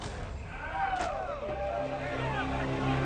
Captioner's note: pedestrians shouting; tense instrumental music